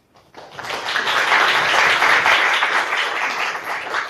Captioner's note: audience applauding